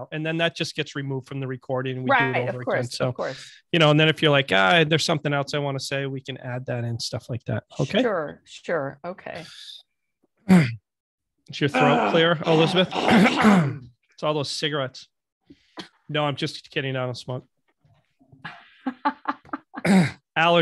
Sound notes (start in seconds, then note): 13.3 clears throat; 18.5 laughing